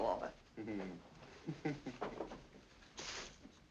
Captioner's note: Walter chuckles